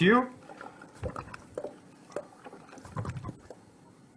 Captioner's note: shuffling